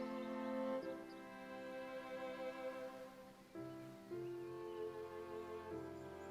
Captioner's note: birds chirping; gentle music